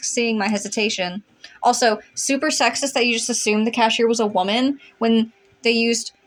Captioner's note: sarcastically